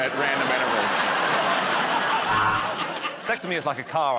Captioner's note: laughter